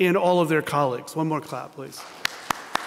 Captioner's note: applause